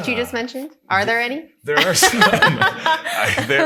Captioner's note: laughs